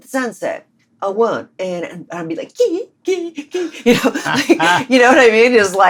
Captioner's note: laughter